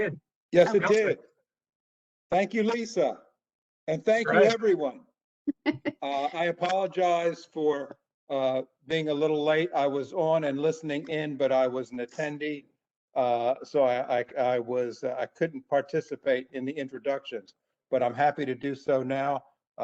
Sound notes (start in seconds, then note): 5.1 laughter